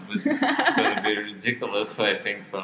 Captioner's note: both laugh